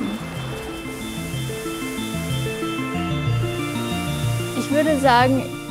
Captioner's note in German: Maschinengeräusche